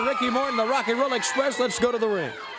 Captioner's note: crowd cheering